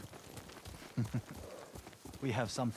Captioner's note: laughs